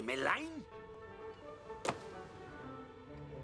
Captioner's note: door closes